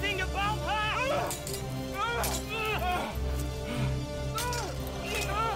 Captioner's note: shouting, swords clanging